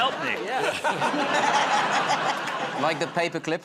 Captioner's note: laughter